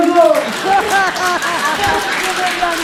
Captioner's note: applause and laughter